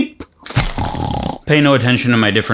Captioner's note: thuds and snores